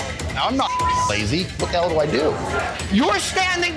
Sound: beeps

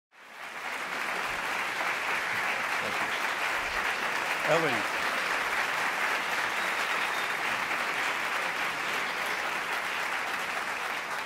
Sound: applause

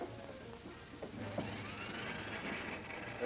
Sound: dishwasher whirs

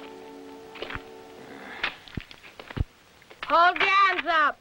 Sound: sigh

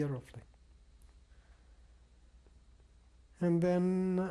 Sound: pauses for 3 seconds

